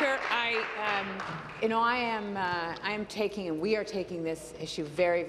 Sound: applause

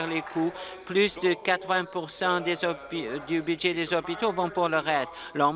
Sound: applause

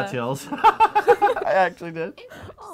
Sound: laughs

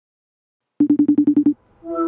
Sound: phone ringing

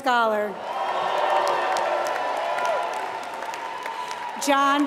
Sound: applause

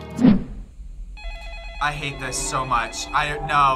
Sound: phone rings

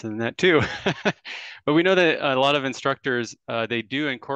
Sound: laughs

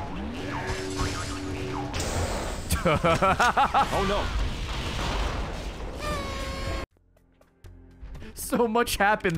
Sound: laughs

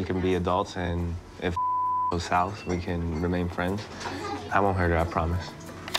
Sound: beep

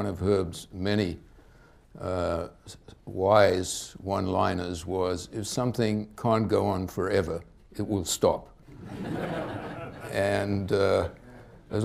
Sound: laughter

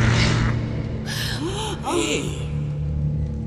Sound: gasps

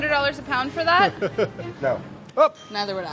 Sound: laughs

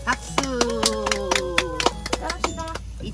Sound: 👏Applauding at dad's opening speech👏

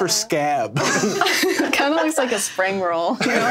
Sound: everyone laughs

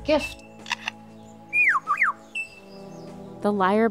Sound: lyre bird singing

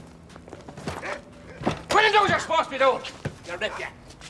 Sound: dog barking

